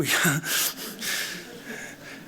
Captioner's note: laughs